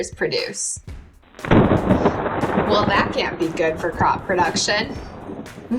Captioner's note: thunder sounds